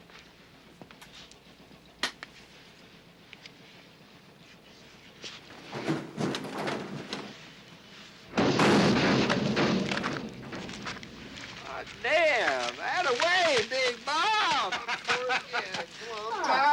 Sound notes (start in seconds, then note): 8.3 machine thuds; 14.6 Artie laughing